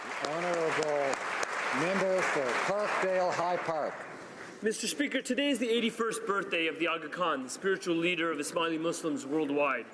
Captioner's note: applause